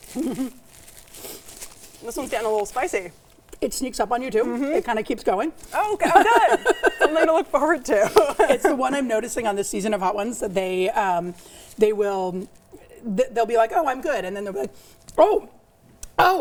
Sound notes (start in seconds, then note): 0.1 giggles; 5.7 laughs